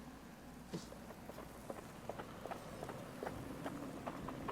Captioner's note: wind blowing